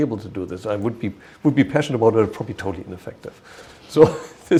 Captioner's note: chuckle